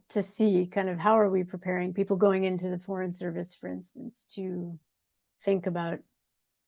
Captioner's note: none